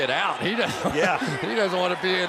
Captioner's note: laughs